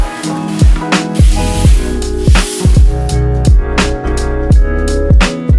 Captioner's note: bubble wrap rustling